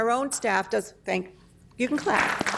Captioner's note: applause